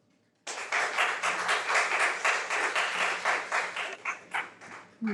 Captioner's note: audience clapping